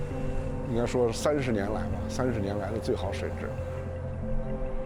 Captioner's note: speaking chinese